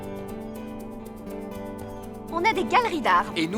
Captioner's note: bird calling